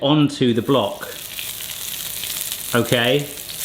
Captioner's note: oil sizzling